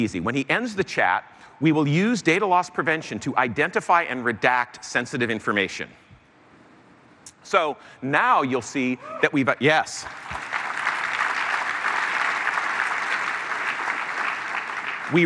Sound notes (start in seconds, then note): 9.5 hoot from audience; 10.0 applause